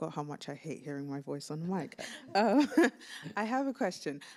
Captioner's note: laughs